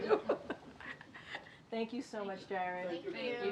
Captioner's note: laughter